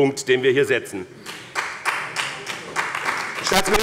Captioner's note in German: Beifall bei dem BÜNDNIS 90/DIE GRÜNEN und der CDU